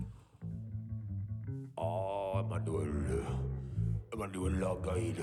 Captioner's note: speaks nonsense